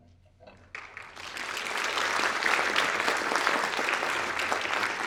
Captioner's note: audience applauding